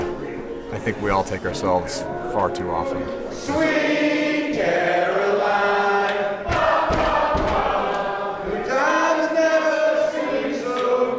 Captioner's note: singing; cheering